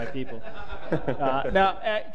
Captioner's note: laughter